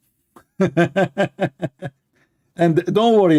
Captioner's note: Ketawa